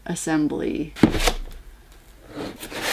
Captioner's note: cardboard box slides out of sleeve